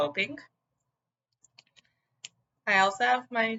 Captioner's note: another pause